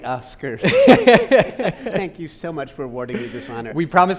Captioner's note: laughing